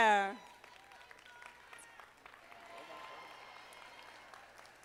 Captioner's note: audience applauding